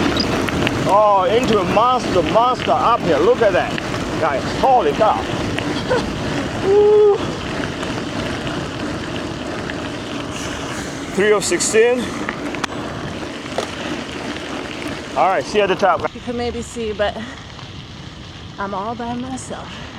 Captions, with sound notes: Oh into a monster, monster up here Look at that Guys, totally tough [Laughing] Three of sixteen Alright, see at the top You can maybe see but I'm all by myself